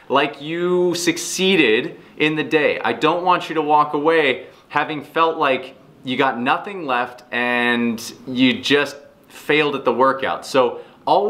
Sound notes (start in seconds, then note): none